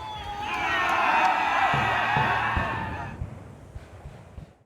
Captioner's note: soldiers charging